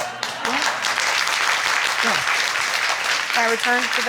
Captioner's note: audience applauding